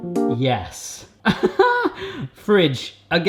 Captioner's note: upbeat music; laughs